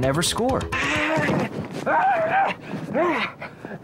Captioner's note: gasping and grunting